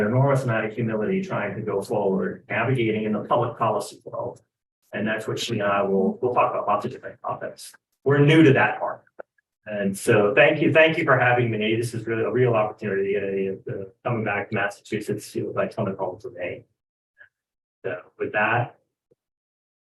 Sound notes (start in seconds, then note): 14.2 speaks faintly